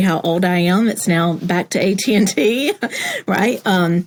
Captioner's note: laugh